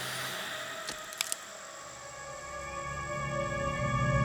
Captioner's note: twigs snapping